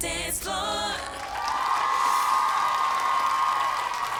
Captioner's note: cheers and applause